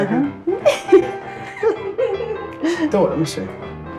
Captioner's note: laughs